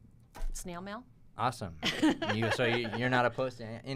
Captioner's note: laughs